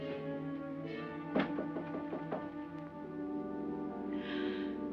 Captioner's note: knocking on door